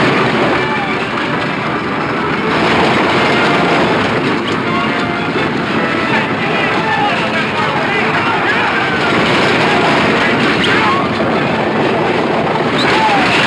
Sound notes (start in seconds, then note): 0.2 dramatic music; 0.2 wagons wheels rumbling; 5.5 dramatic music; 6.8 wagon wheels rumbling; 8.3 men yelling; 10.5 dramatic music